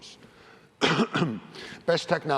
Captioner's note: cough